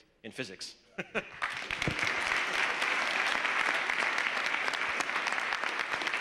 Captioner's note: applause